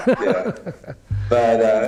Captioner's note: laughter